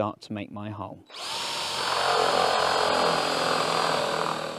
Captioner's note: drilling